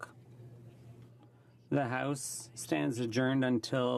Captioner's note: speaking in french